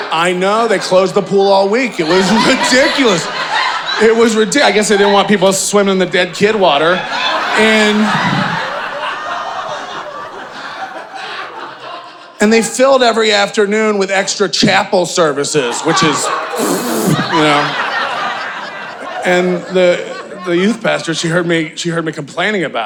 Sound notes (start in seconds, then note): 3.6 audience laughing; 7.5 audience laughing; 16.4 spitting; 17.9 audience laughing